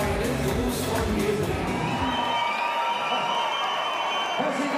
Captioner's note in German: Applaus, Jubel, Pfiffe